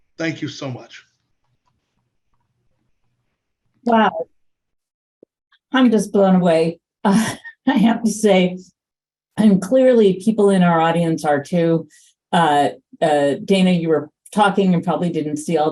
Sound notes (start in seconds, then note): 7.1 laughs